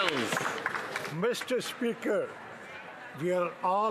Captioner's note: applause